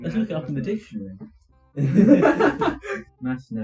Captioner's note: laughing